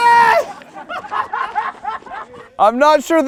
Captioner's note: people laughing